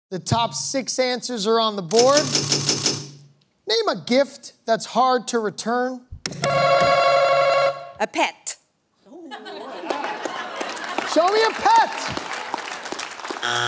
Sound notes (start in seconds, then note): 2.1 panels clicking; 6.5 answer button rings; 9.1 laughter; 13.4 buzzer sounds